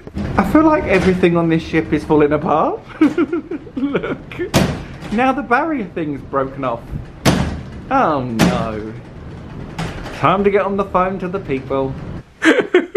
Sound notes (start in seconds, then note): 2.8 chuckles; 7.1 barrier bangs